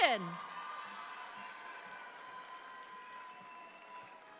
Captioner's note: audience applauds